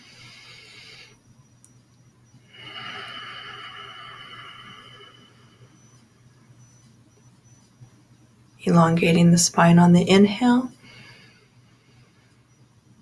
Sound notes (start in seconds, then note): 2.6 inhale/Exhale